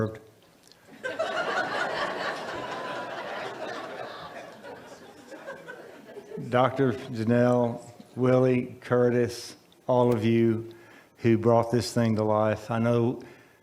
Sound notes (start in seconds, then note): 3.7 audience laughs